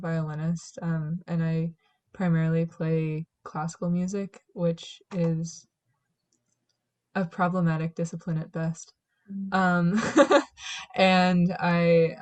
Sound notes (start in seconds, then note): 10.0 laughs